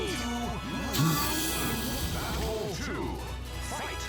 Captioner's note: sighs